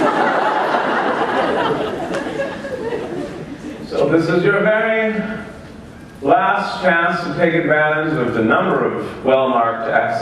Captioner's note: laughter